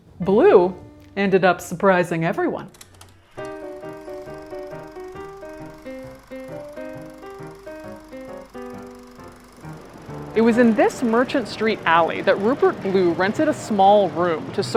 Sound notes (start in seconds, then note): 3.5 bouncy music; 3.5 projector whirring